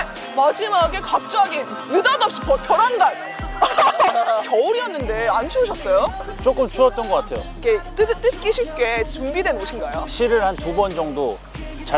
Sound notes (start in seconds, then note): 3.5 haha